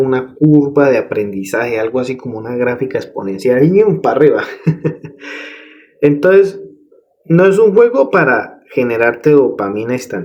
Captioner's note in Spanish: risas